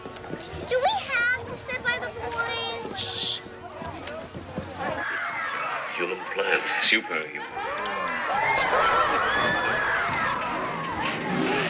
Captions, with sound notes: DO WE HAVE TO SIT BY THE BOYS? SHHH. YOUR LITTLE PLAN IS SUPER, YOU KNOW. ( loud chatter )